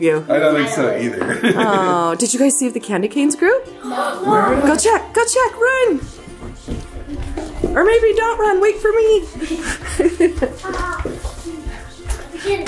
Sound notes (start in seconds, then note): 1.3 laughs; 3.9 girl gasps loudly; 6.5 upbeat music; 9.3 laughs